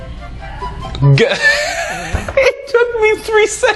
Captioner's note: laughs